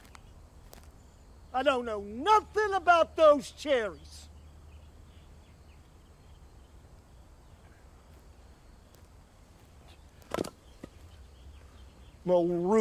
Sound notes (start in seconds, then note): 5.0 birds chirping; 10.2 wood falls to ground